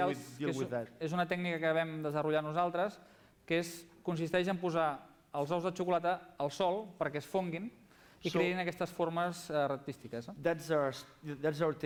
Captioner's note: non-english speech